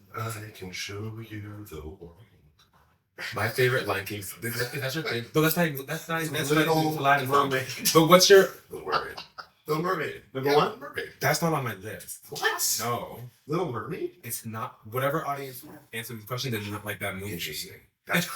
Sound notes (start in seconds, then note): 8.7 laugh